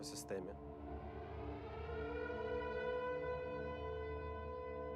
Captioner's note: air raid sirens blaring